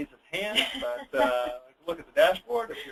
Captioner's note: laughing